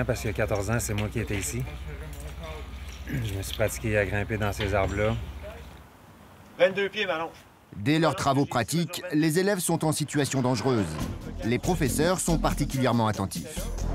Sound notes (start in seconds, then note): 6.4 Slovenian spoken audio